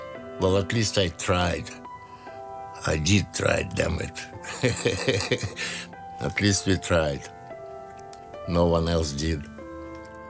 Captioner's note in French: rires